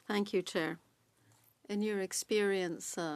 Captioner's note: speaking French